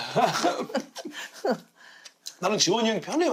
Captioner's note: laughing